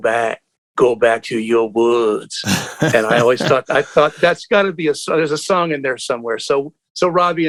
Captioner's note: laughter